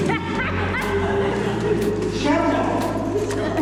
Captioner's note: laughter